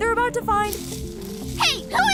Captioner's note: rustling